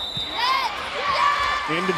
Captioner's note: whistle blows